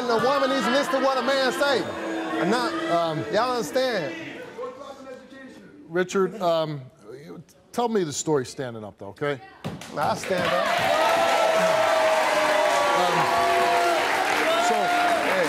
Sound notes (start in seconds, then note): 2.1 audience boos; 12.9 audience cheers